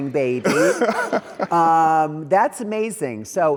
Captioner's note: laughs